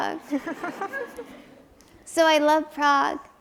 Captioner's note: audience chuckles